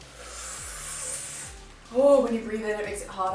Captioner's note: inhales